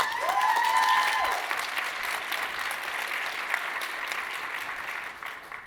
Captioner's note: audience cheering and applauding